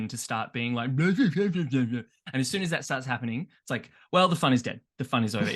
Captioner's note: makes douchey men sounds